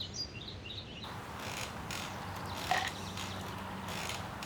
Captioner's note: birds chirping; chair creaking